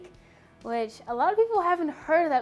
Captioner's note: none